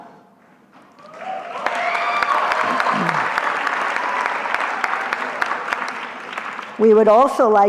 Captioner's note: cheering